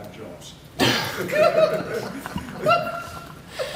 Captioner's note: laughter